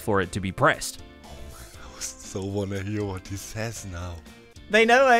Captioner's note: whispering